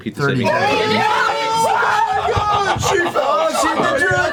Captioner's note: cheers and yelling